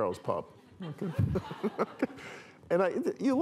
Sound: laughter

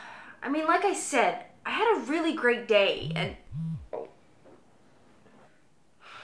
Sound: Rose's cell phone vibrates

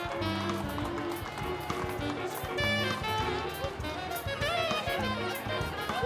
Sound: applause

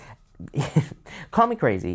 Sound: chuckles

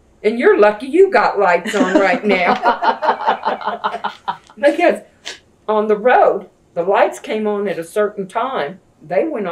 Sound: laughter

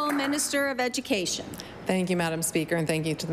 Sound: applause

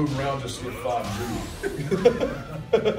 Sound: laugh

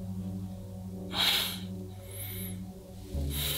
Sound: Honey Badger scoffs

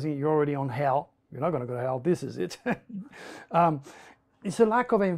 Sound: lacht

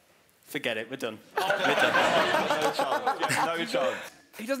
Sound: laughing

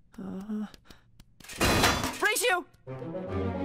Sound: clank

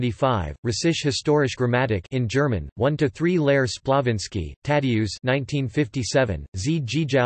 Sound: in German

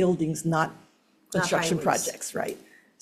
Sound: speaking faintly

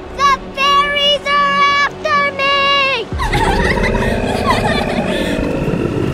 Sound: More Fairy Laughter

